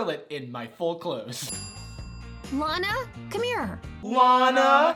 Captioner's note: bell sound